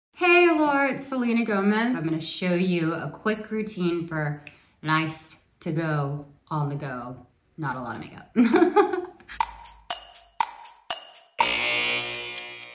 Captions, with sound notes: - Hey, Allure it's Selena Gomez. I'm gonna show you a quick routine for nice to go on the go. Not a lot of makeup. [laughs] [timer ticks]